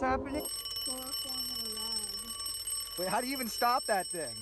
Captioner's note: alarm clock rings